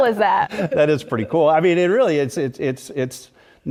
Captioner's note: laugh